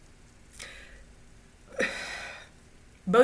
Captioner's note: sigh of disbelief